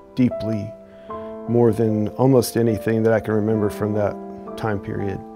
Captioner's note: none